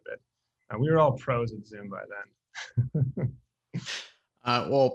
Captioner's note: chuckles